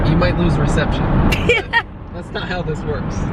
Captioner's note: laughs